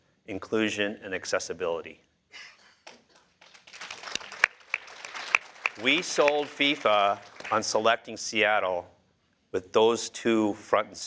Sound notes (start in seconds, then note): 2.8 applause